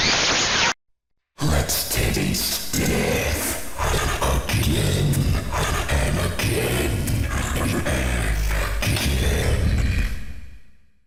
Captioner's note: more static noises; deep, Glitching Voice